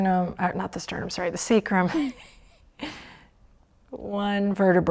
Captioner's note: laughs